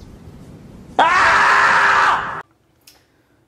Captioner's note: ahhhhhhhhhhhhhhhhhh